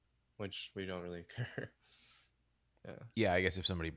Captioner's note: chuckles